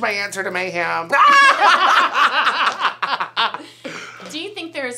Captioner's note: all laugh